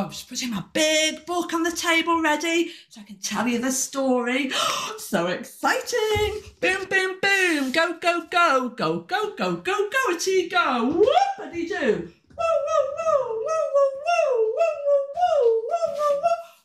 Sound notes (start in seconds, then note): 4.5 gasp